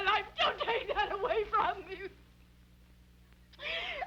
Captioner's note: sobbing